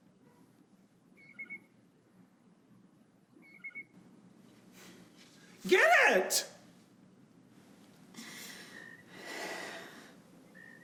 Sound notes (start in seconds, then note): 3.4 and chirps!; 8.2 Mary takes a deep breath